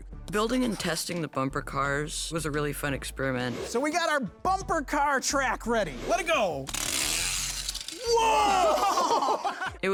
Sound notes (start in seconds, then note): 7.0 car buzzing; 8.4 kids laughing